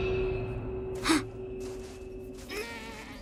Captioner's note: gasping; grunting